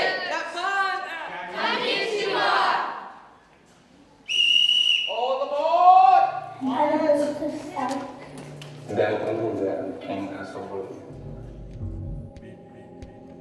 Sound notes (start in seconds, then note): 4.2 A whistle is blown; 8.7 ambient music with travelling sounds